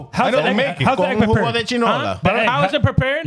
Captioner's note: speaking In Foreign Language